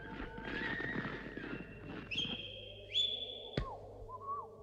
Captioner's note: whistling in the distance